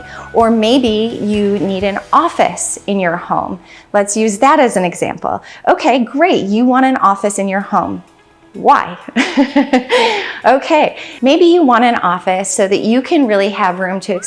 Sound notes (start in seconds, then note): 9.1 laughs